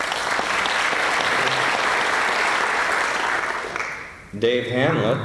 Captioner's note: applause